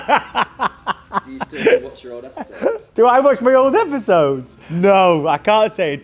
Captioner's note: laughing